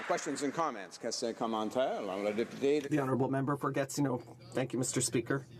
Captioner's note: applause